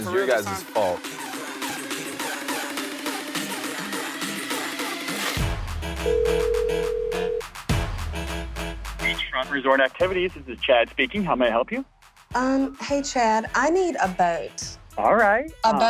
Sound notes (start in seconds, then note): 2.4 hip-hop music; 6.0 phone ringing